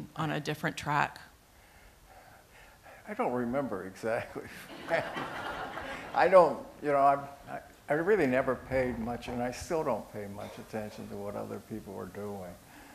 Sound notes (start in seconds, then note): 4.4 laughter